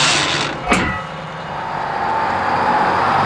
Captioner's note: gears Grinding; engine Revs